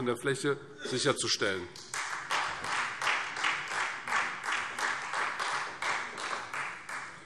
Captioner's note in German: Beifall Freie Demokraten und vereinzelt SPD